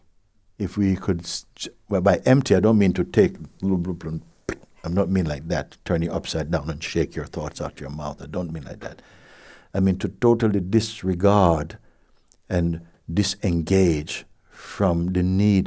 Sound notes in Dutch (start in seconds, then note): none